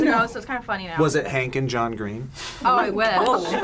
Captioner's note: laughs